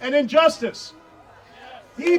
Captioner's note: audience cheering